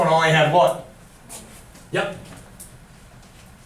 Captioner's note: voiceover